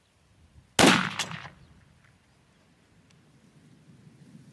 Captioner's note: rifle blasts